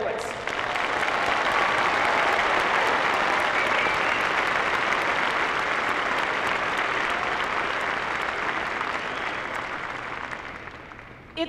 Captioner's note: applause